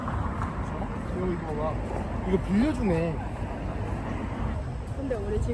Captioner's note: motorbikes